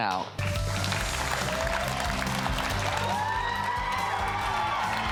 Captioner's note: audience applauding